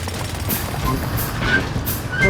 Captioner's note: drilling